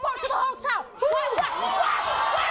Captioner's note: audience cheers